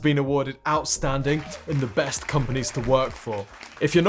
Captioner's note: crowd applauds